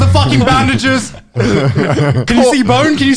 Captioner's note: laughing